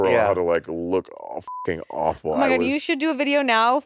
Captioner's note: beep